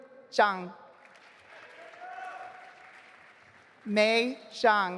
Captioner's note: audience applauding